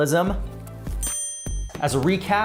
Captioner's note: ding